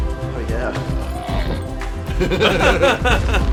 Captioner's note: happy trilling